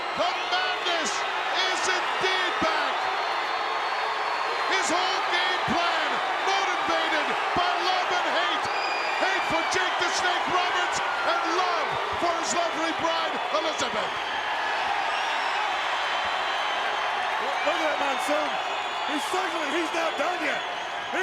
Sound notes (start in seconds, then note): 14.2 crowd cheering